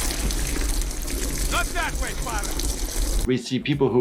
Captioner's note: water splashing